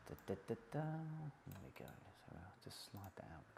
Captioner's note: humming to self